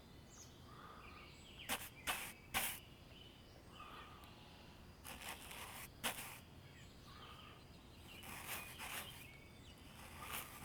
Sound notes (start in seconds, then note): 4.8 bristles scraping